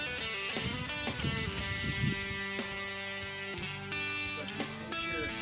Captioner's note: wind blowing